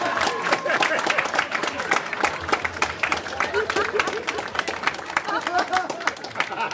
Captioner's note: applause